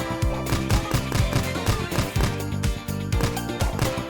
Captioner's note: punches thudding